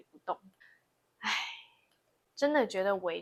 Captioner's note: sigh